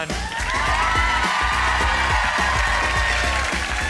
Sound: audience applauds

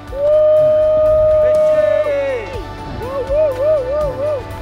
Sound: all cheering

